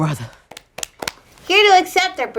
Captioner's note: both applauding